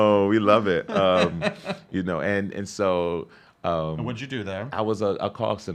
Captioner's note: laughs